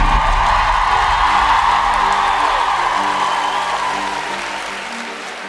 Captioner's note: audience cheering